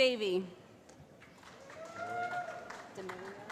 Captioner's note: cheering